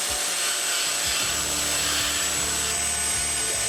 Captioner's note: sawing